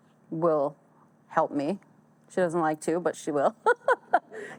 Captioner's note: laughs